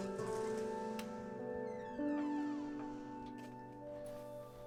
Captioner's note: gentle orchestral music continues; door creaking